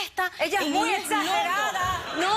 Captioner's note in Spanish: risas